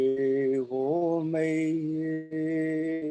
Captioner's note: chanting